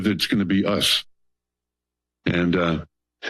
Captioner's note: pause